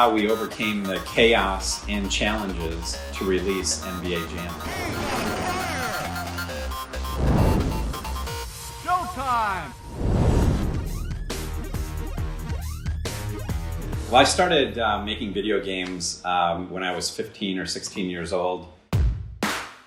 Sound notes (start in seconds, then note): 6.5 intense electronic music; 9.9 fire roaring